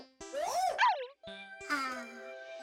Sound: barks softly

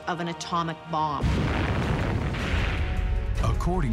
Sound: bomb exploding

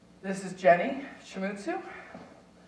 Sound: none

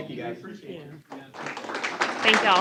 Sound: applause

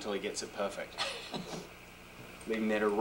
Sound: chuckle

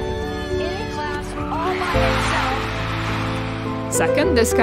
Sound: crowd cheering

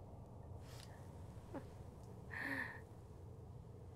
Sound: chuckling

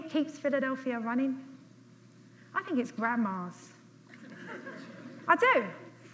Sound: light audience laughter

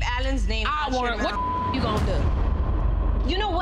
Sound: beep

